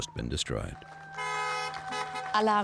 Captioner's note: car honking